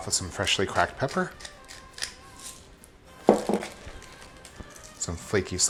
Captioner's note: pepper grating